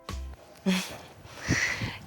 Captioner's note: laughing